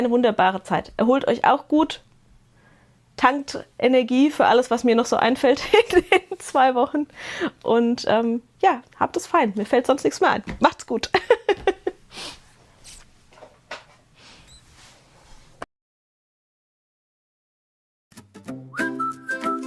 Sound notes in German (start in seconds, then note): 11.1 Gelächter; 14.1 Schnauben